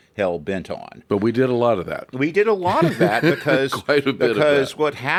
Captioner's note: laughs